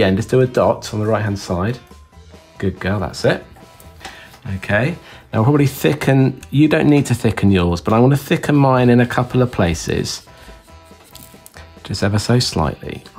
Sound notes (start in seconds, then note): 10.4 pen scratches